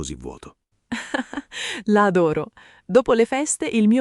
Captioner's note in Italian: Haha